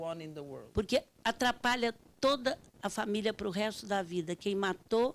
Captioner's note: speaking Portuguese